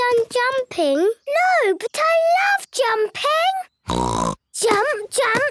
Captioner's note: snort